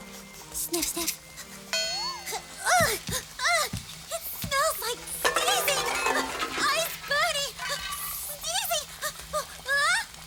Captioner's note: sniffs something she shouldn't, pots clang in her struggles